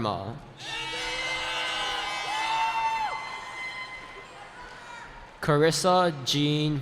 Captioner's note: cheering